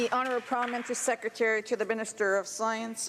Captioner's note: some Applause